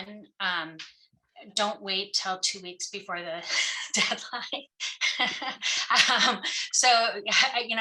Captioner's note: laughs